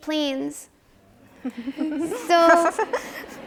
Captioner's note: audience laughs